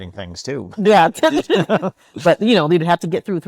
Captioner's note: laughing